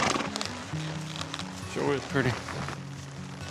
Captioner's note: horse blusters